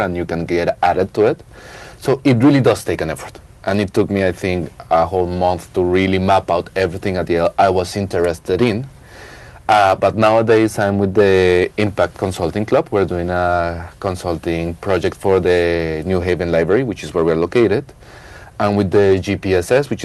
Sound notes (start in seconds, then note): none